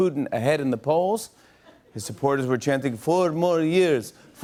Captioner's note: Russian accent